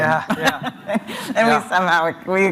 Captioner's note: chuckles